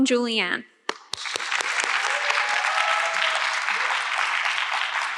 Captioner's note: audience clapping